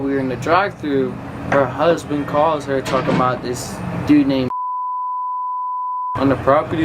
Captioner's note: beep